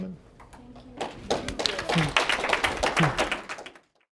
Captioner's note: applause